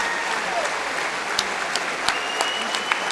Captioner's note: applause